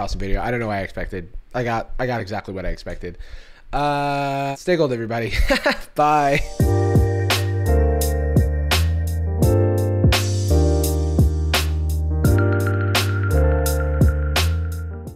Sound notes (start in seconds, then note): 5.6 laughs